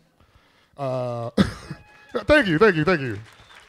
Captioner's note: audience applauds